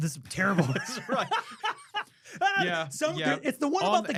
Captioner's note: laughing